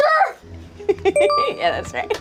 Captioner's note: laughs